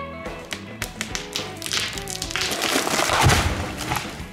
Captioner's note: tree falling